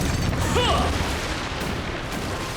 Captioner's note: grunting